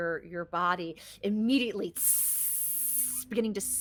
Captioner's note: imitates sizzling